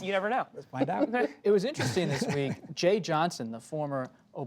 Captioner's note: laughs